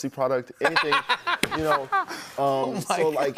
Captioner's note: laughter